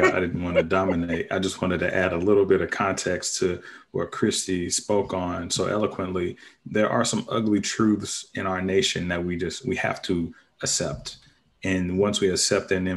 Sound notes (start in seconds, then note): 0.0 panelists laughing